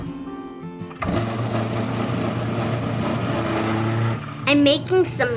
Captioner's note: bright music; food processor whirring